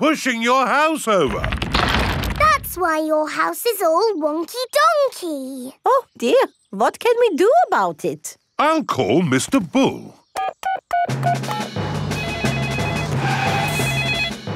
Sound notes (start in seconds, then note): 12.0 beeping; 12.0 phone ringing